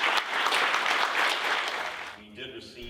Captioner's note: audience applauding